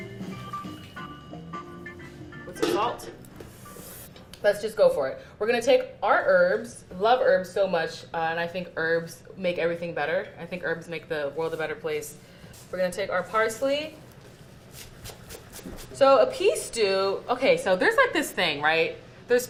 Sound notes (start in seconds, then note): 0.0 jazzy music; 14.8 chopping parsley